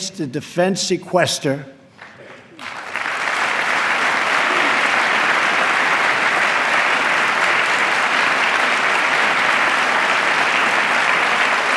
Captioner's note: applause